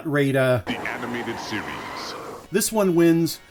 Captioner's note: deep announcer voice